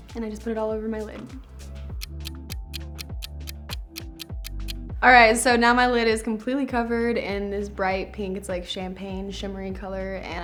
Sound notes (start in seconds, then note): 1.9 clock ticks